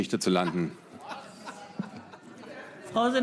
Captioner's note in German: Lachen